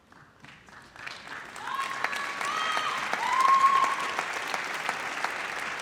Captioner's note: audience applauds